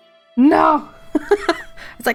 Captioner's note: laughs